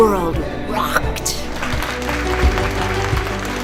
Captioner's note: audience clapping